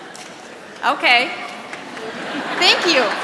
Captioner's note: laughs